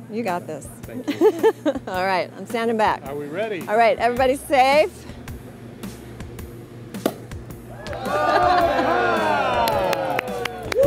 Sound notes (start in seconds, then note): 1.0 laughs; 7.0 bottle pops; 7.7 people cheer